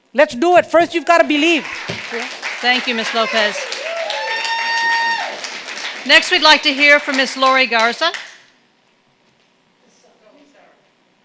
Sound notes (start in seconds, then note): 1.7 audience clapping; 4.1 audience cheering